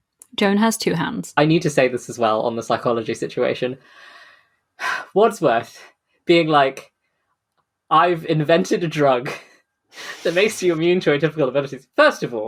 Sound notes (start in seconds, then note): 4.2 sighs